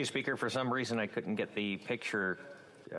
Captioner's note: speaking FRENCH